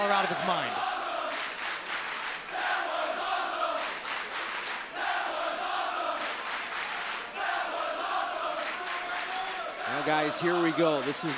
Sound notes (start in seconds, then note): 1.9 crowd cheering